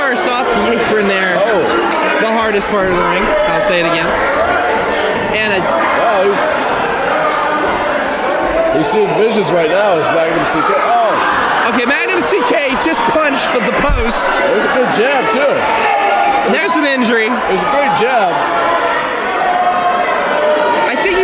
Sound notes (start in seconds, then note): 5.0 crowd shouting